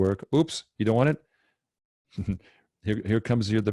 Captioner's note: chuckles